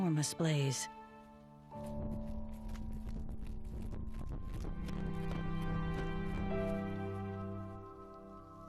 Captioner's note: wings flapping